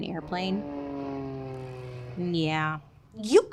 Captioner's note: airplane engines whirring